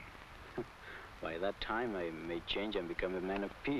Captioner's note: chuckles